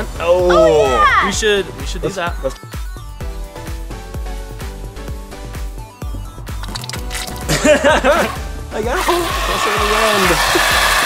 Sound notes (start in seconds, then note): 6.6 water spewing; 7.4 laughs, speaks inaudibly